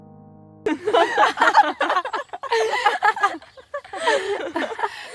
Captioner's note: girls laughing